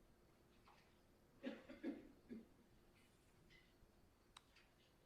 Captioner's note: coughs loudly